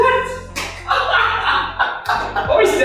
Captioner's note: laughter